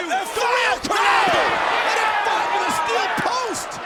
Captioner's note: audience groaning